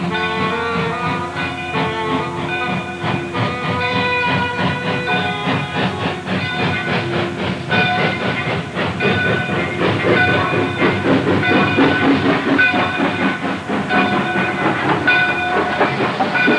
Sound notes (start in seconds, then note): 0.1 train bell tolling; 5.1 train chugging